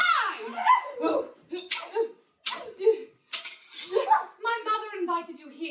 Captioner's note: swords clanging